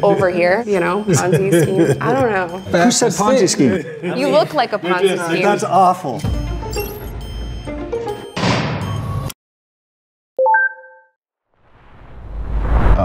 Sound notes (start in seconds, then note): 2.7 guests chatter; 6.2 bright music; 8.0 gates clanking